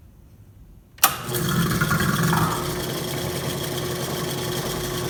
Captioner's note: switch clicks, pump gurgles